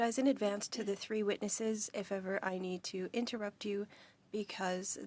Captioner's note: speaking French